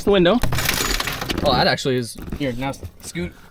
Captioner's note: glass shattering